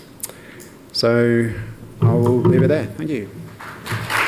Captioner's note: applause